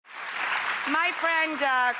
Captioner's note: audience applause